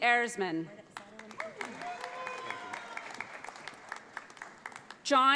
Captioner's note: audience applauds